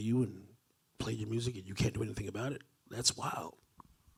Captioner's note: none